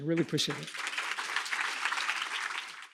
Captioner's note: applause